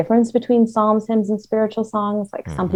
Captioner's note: hums